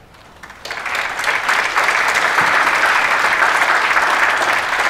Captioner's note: audience applauds